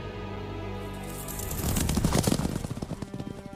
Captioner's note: chariot and horses galloping